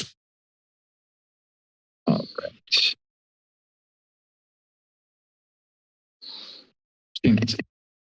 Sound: silence

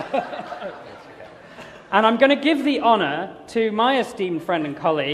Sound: laughter

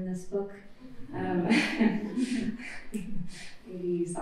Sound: laughter

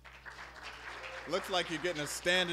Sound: applause

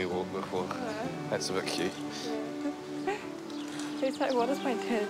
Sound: chuckles

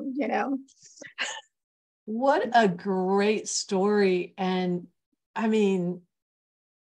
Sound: laughter

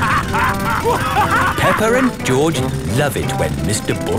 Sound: both laughing; drilling

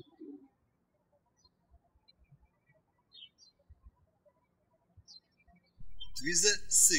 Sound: birds chirping

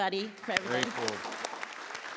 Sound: applause

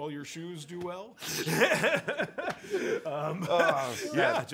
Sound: laughter

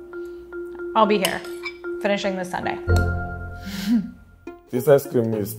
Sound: chuckles

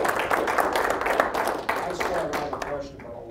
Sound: applause

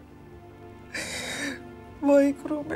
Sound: crying

